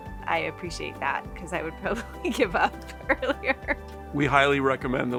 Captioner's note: laughing